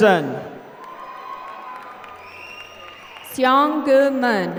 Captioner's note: applause